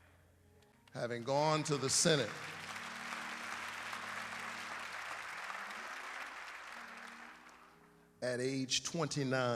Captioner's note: applause